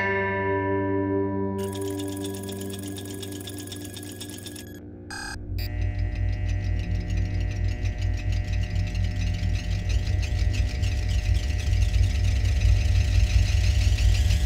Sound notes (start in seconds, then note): 1.5 electronic noises; 5.1 whirring noises; 10.4 build-up of electrical noises